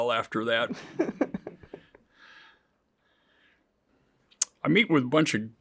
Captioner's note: interviewer laughs